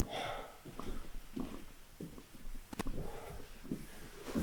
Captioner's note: static crackling; Jacob panting